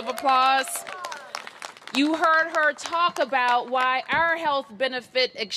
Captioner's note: applause